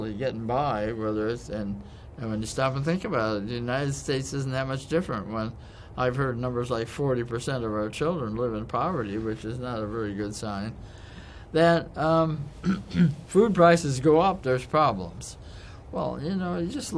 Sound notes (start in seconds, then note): 12.6 cough